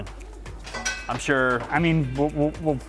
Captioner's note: metal clinking